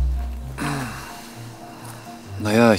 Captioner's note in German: Räuspern